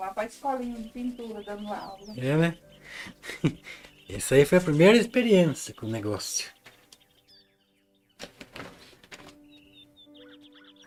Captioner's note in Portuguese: risadas